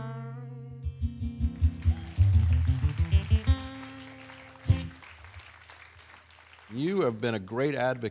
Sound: applause

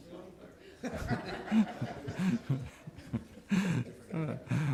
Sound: laughing

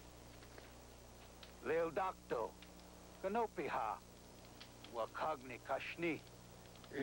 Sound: speaking Sioux

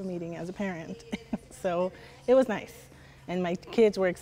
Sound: laughing

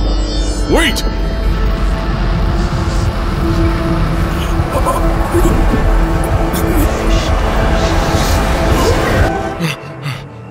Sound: Sounds of air being sucked from room, Chartrulean gasping and choking

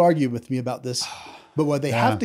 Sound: sighs

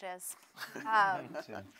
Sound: laughter

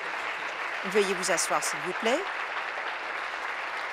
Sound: applause

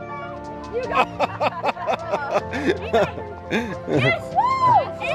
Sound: laughing

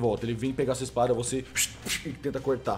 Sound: shh, pch

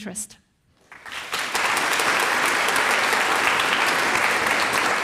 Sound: audience applauds

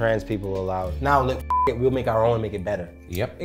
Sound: beep

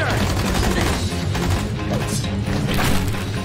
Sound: gunshots

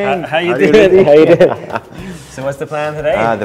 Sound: both laugh

